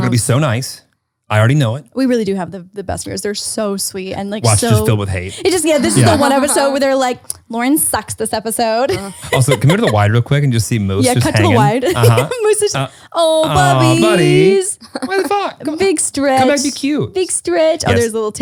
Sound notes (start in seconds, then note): 8.8 laughs